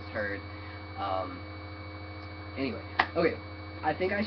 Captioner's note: clap